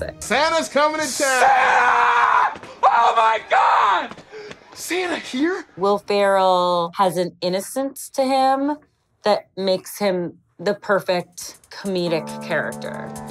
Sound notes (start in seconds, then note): 1.2 screaming